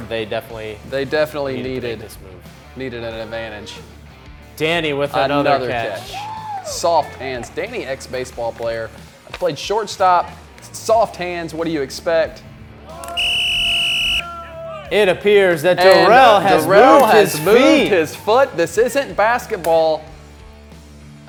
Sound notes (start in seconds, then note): 13.1 whistle blows